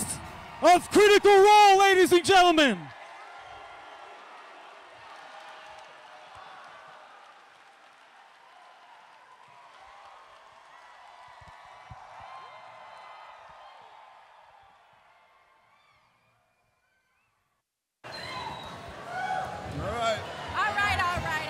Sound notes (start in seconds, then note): 4.5 cheering